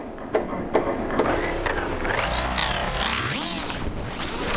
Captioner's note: knocking; becoming heavily modulated; wibbly warbly weird